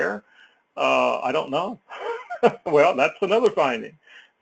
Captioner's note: laugh